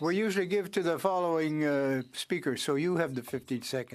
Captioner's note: speaking French